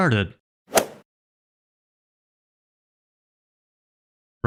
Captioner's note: golf ball hit sound effect